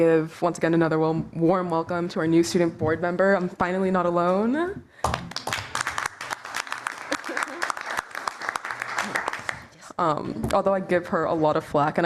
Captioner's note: applause